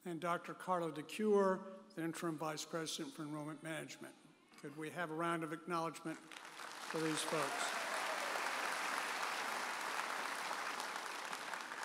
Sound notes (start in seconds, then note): 6.2 audience applauding